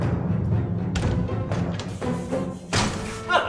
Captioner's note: door opening and closing sounds